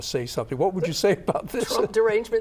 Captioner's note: laughs